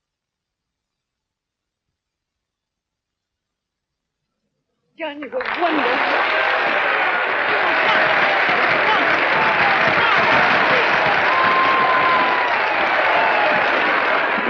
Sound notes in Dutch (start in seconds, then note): 5.2 applaus; 5.2 gejuich